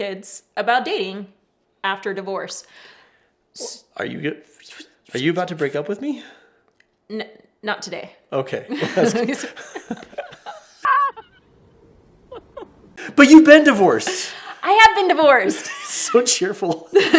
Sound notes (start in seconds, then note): 8.7 both laugh; 11.3 sobs